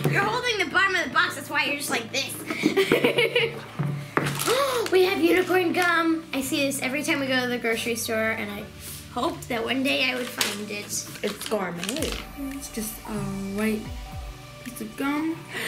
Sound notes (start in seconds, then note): 2.5 laughs; 4.3 gasps